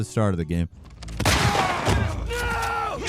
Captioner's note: gun blasting; Joel yells